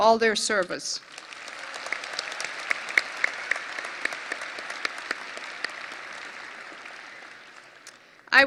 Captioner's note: audience applause